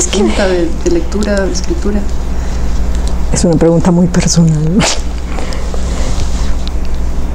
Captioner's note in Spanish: Risa nerviosa